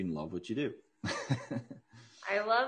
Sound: laughs

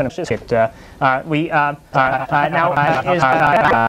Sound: uncontrollable "uh"-ing

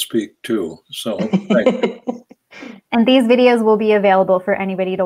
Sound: laughs

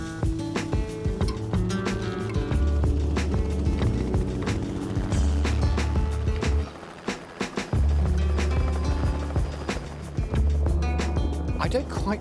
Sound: helicopter flying past

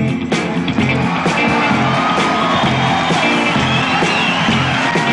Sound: audience applauding

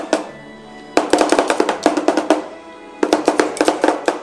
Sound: spatulas chopping

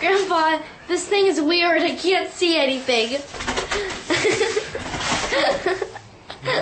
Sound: laughing

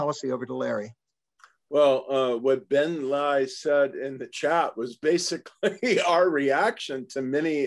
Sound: laugh

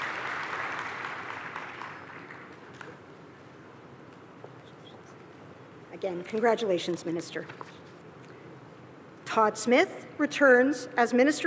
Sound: applause

